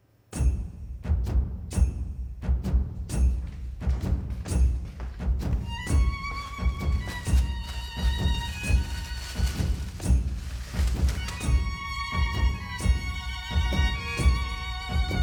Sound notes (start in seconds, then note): 0.2 rhythmic drum music; 8.0 plastic crinkling